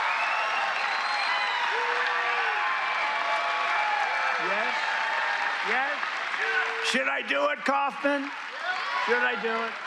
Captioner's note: cheers and applause